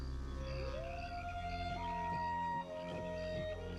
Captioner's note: wolf howling